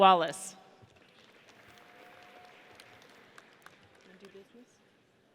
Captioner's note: audience applauds